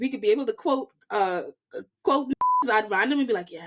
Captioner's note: beep